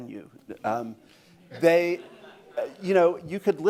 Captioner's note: laughter